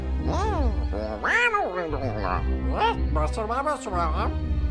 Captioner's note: aliens speaking